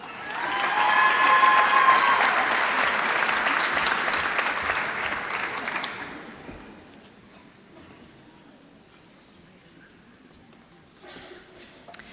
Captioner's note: applause